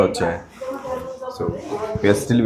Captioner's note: background buzz